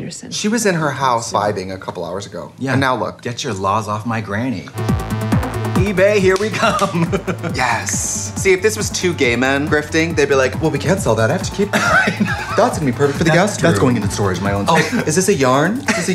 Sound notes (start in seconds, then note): 4.7 techno music; 6.5 Katya laughs; 11.7 Katya laughs